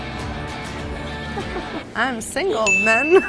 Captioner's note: laughing